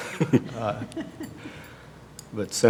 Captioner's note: laughter